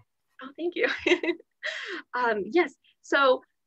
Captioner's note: laughter